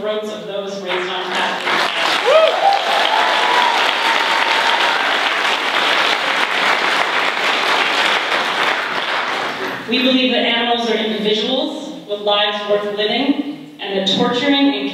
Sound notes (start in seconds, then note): 2.9 applause